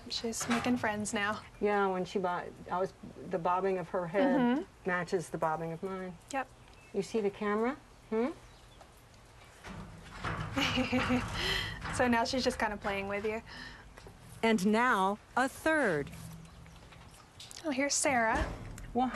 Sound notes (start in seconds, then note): 10.6 laughs